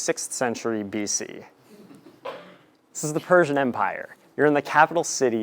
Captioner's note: laugh